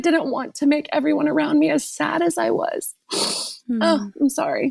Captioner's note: sniffs